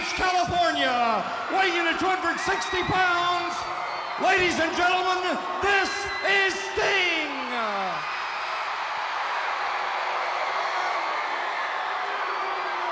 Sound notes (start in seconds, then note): 8.5 crowd cheering